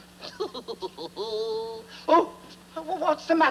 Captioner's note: chuckling